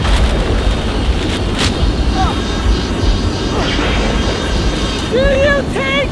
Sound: heavy wind & thunder

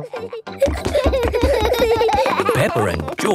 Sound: both giggling

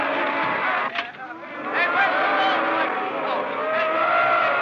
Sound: booing Intensifies

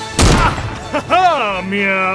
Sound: upbeat tense music begins; gun fires

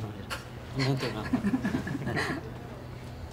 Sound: laughs

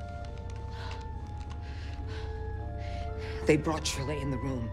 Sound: shaky breaths

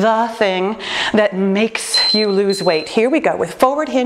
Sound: timer beeping

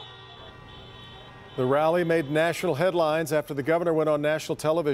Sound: horns honking

